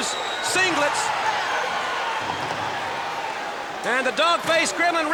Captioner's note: audience cheers